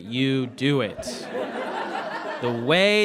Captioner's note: audience laughs